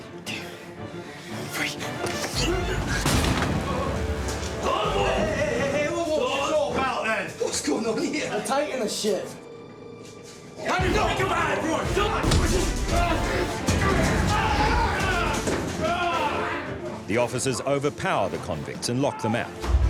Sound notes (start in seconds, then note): 3.0 door thuds; 4.3 men shouting; 10.7 men shouting